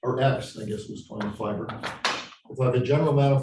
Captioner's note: chalk clatters loudly